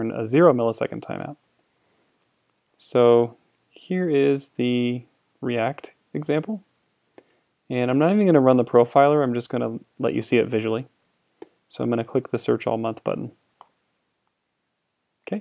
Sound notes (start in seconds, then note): none